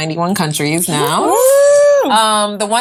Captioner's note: all cheer